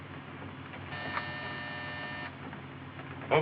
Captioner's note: buzzer ringing